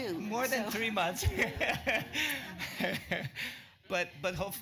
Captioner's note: laughter